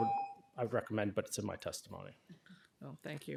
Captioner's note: timer tone